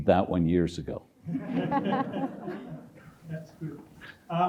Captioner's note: audience chuckles